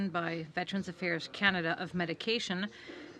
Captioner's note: speaking French